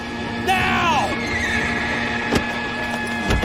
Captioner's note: horse neighs